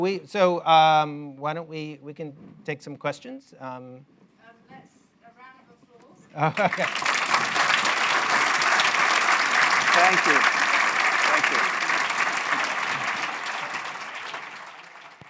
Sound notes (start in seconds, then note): 6.3 applause